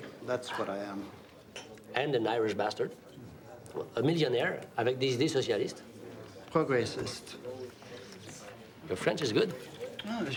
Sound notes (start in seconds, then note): 0.0 speaks in foreign language; 4.4 speaks in foreign language; 6.7 Eric speaks in foreign language